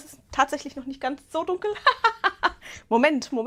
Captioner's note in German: Gelächter